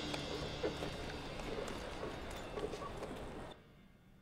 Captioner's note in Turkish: Ayak sesleri; At nalı sesi